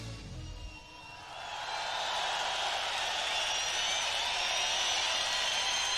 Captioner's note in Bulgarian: Публиката аплодира